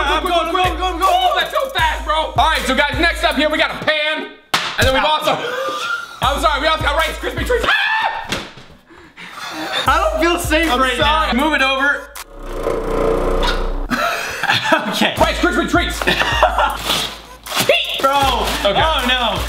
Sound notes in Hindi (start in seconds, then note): 5.3 दोनों हँसते हैं; 7.6 चिल्लाते हैं; 13.9 दोनों हँसते हैं; 16.0 हँसता है